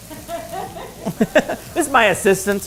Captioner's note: laughter